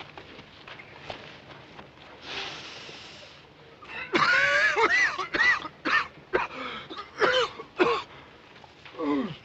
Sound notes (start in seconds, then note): 2.4 sniffs, coughs